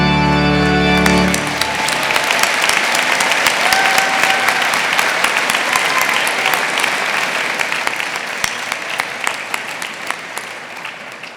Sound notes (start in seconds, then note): 1.2 audience applauding; 1.2 audience cheering